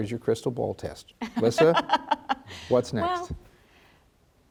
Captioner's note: laughs